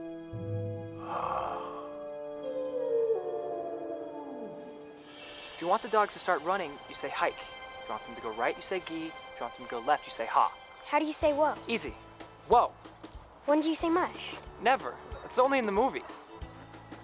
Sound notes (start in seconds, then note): 2.4 wolf howling